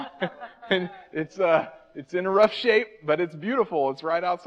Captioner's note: audience member laughs